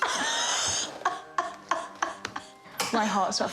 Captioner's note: laughs